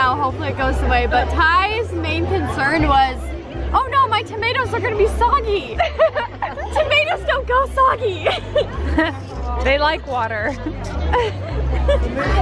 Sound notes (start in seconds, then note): 5.7 laughing